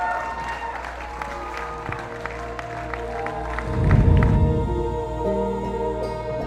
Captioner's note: applause